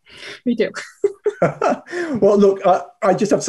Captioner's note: laughs